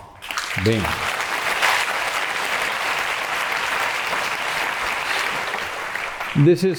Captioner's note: applause